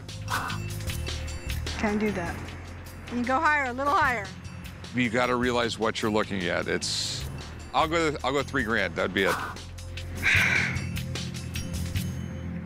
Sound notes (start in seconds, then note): 10.1 sighs